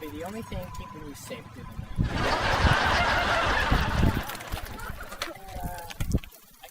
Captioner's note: audience laughing